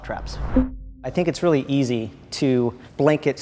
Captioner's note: voice-over